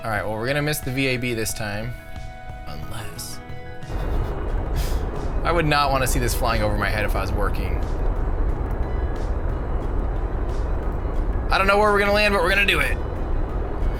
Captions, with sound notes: All right, well we're gonna miss the VAB this time, unless. (engines firing) I would not wanna see this flying over my head if I was working. I don't know where we're gonna land, but we're gonna do it!